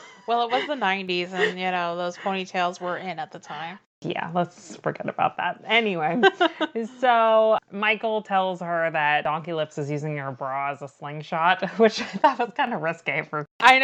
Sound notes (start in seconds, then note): 6.9 laughs